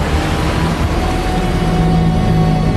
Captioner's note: machine Groaning